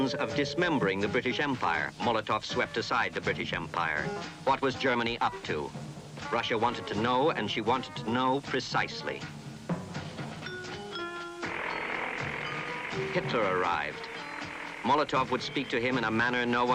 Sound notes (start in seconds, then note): 11.0 airplane engines whirring